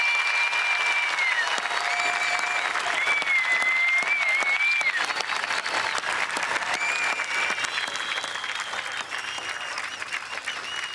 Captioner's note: applause